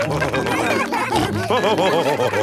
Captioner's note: all cheering; laughing